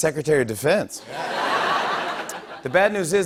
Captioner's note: laughter